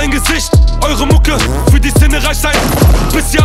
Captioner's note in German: Schuss